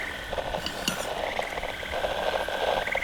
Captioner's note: utensils fx